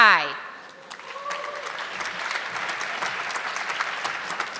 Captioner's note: audience clapping